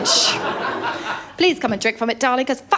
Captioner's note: laughter